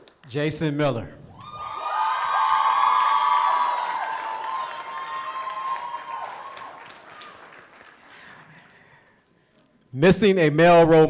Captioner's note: applause